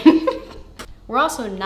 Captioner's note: laughing